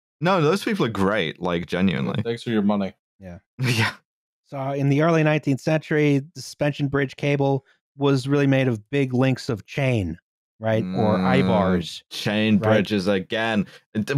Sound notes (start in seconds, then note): 3.9 laughing